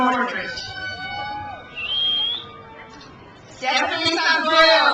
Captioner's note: crowd cheers